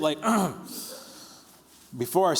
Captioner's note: clearing throat